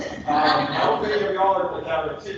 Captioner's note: people laughing